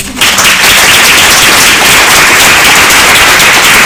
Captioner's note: applause